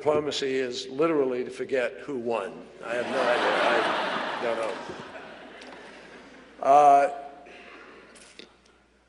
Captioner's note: laughter